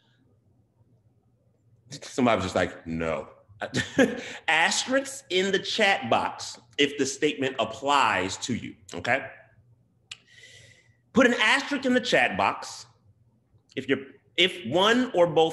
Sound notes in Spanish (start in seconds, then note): 3.6 risas